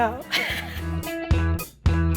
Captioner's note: optimistic music; laughs